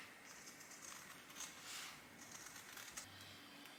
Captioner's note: scissors making snipping sounds